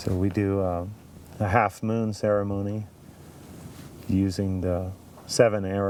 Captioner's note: none